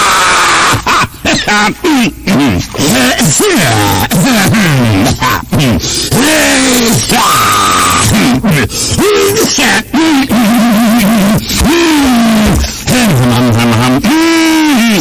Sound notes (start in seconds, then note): 0.8 bass boosted throat clearing continues; 6.1 bass boosted throat clearing continues; 10.6 chest thumping and car startup noise impersonations